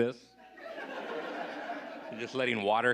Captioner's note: audience laughing